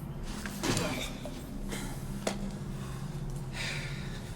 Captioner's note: gruñidos